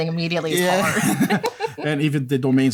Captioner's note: laughter